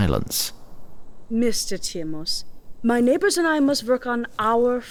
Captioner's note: accented